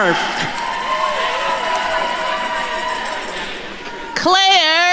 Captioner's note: attendees cheering